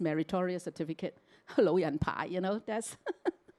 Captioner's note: Cantonese